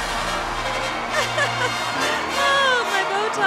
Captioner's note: cheering